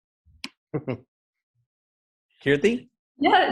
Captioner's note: chuckles